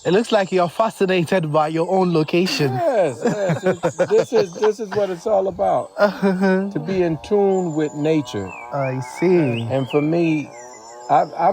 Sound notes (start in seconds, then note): 2.4 both laughing